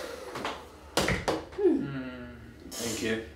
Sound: sighing

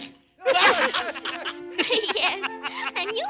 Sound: laughing

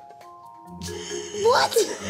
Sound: laughs

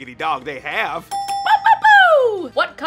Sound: ding ding

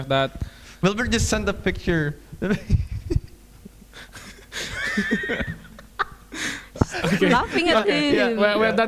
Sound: laughing

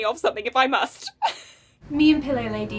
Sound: laughs

